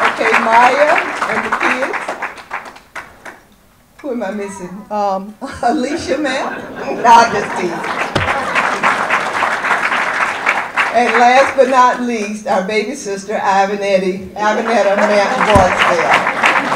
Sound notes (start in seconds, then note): 7.3 audience applause